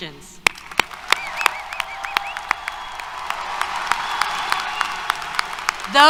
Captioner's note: applause, Cheers